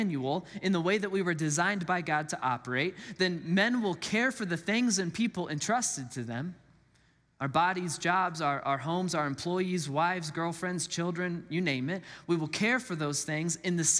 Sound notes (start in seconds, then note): none